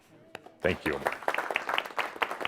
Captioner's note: audience applause